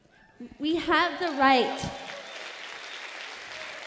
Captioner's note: cheers